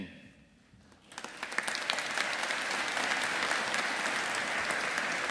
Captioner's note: audience applauding